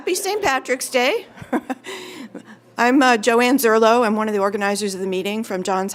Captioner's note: laugh